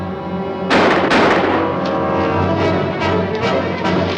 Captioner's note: gun firing